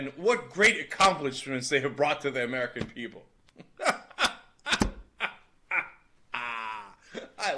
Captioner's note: laughing